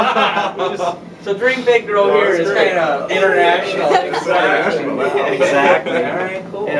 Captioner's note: laughter; laughter